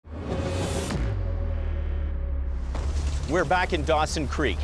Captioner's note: whooshing